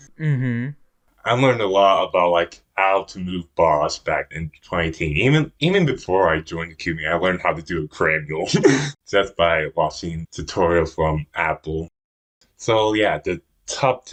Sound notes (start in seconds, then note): 8.5 laughs